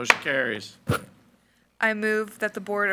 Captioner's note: gavel bangs